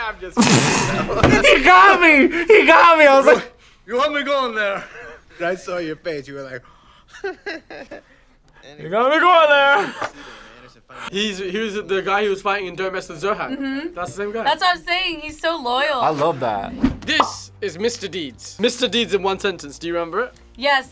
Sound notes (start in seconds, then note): 0.4 laughs; 5.2 laughs; 6.6 gasps; 6.9 laughs